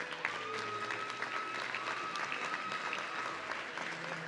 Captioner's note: audience cheering